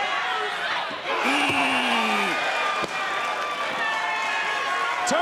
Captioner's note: audience cheers